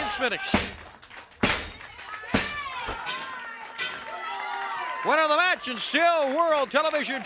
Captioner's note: crowd chatter